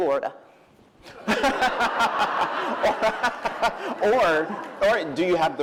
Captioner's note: laughter